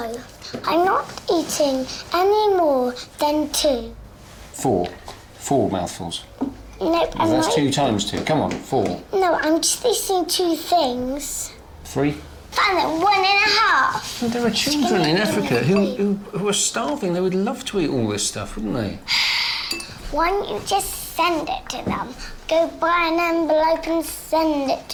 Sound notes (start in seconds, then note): 18.6 sighs